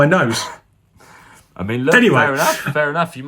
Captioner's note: man laughs